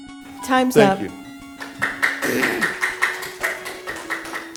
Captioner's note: applause